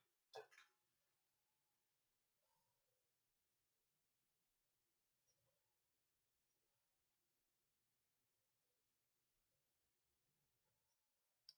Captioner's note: silence